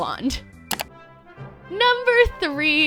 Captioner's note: clicking